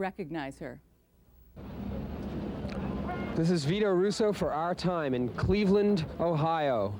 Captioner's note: faint sounds of city streets